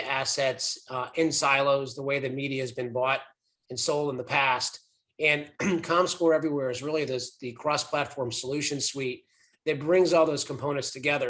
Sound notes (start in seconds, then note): 5.6 cough